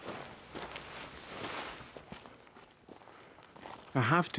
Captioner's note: footsteps thudding